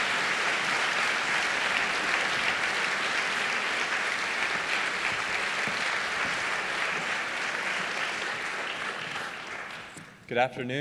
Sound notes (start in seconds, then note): 3.6 audience applauding